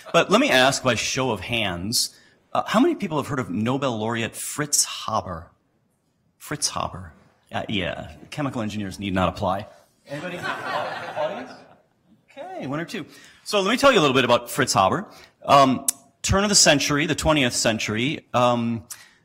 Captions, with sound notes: But let me ask by show of hands, how many people have heard of Nobel Laureate Fritz Haber? Fritz Haber? Chemical engineers need not apply. (laughter) Anybody? Audience? So let me tell you a little bit about Fritz Haber. Turn of the century, the 20th century,